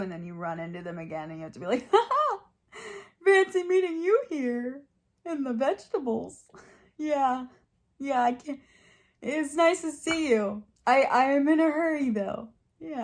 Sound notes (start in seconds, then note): 1.8 chuckles